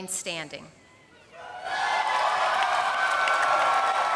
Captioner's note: applause